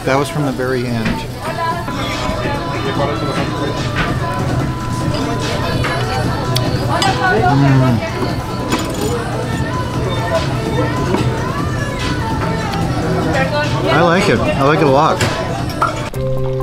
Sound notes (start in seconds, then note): 10.0 diners talking; 16.3 calm music; 16.3 water flowing